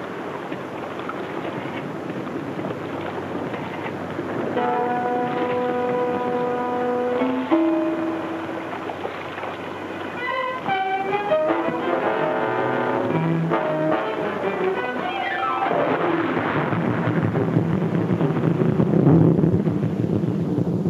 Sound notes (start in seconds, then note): 4.5 tense music; 5.0 water laps; 10.6 dramatic music; 15.7 intense pounding music; 15.8 water splashes